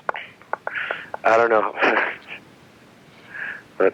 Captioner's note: laughs